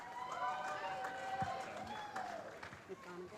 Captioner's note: cheering